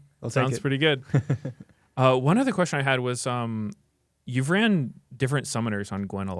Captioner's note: laughs